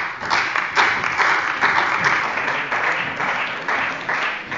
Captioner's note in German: Beifall bei der CDU und dem BÜNDNIS 90/DIE GRÜNEN